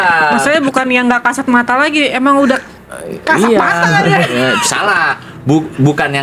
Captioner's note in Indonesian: tertawa